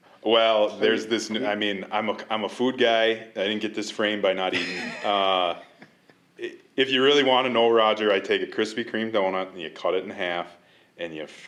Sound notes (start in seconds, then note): 4.5 laughter